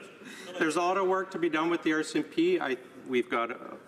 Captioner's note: laughter